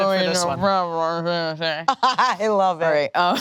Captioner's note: gibbering